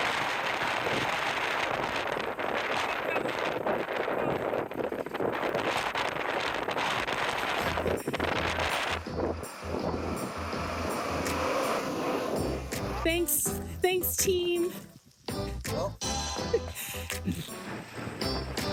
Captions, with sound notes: (wind blowing) Thanks, thanks team. Cool.